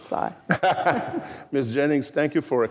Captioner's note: laughter